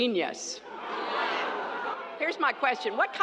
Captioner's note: laughter